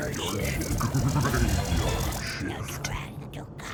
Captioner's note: spooky voice; creepy voice